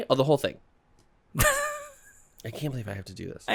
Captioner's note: laughter